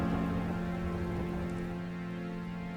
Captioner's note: thunder storm